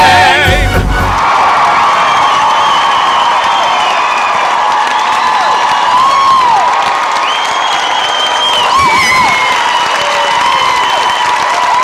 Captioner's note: whistling, cheers, hoots